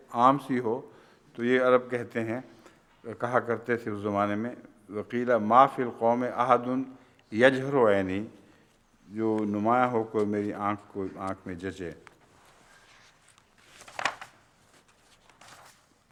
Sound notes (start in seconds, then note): 4.8 Arabic